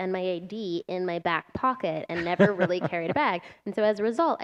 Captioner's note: laughter